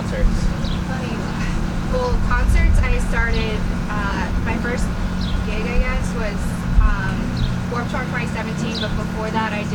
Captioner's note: laughing